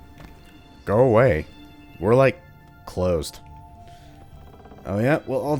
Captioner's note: butthead voice